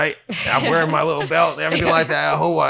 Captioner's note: chuckles